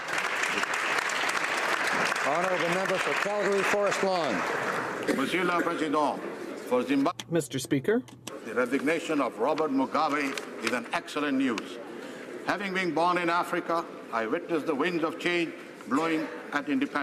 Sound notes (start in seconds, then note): 4.2 applause